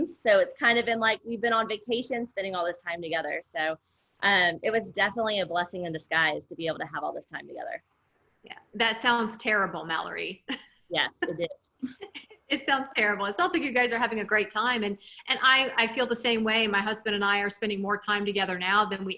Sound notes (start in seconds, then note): 10.5 laughs